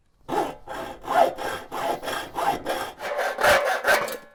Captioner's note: saw cutting